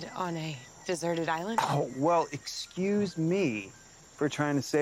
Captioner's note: scoffs